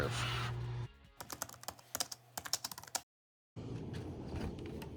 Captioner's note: keys clacking